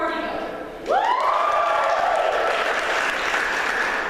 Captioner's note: applause